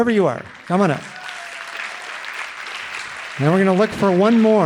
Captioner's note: audience applauding